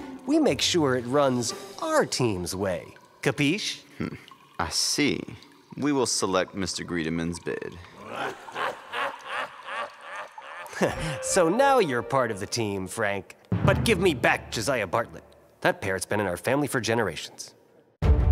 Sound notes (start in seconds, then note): 8.0 demon cackling